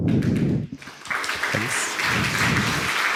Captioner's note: voiceover; applause